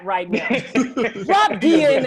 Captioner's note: laughter